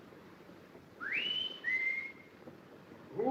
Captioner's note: whistling